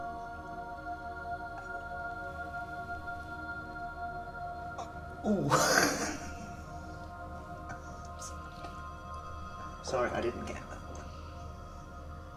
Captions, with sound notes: (laughing) Sorry, I didn't get that one.